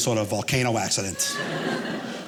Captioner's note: audience laughing